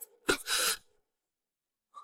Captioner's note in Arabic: سعال